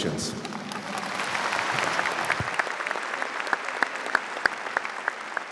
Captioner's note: audience applauds